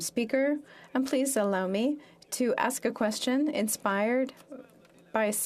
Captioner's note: speaking French